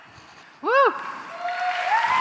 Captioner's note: cheering and applause